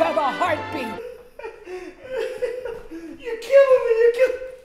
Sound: laughing

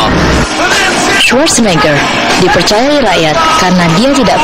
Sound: speaking indonesian

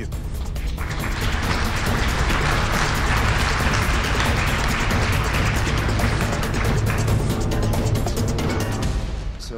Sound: applause

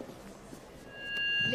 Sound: mic whines

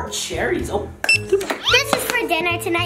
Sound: scanner beeps

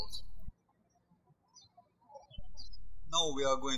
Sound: birds chirping

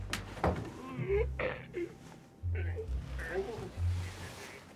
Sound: grunting

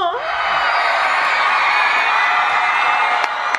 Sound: laughing; cheering

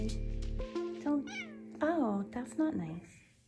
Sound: cat meowing

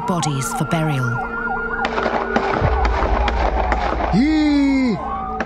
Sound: sirens wailing, gunfire erupts; man exclaiming

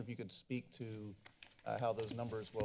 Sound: papers flipping

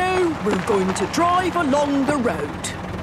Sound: cars honking

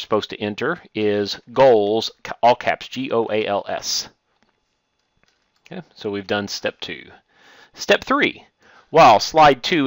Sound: click

